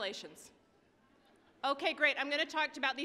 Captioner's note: audience laughing